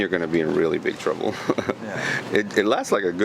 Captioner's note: chuckling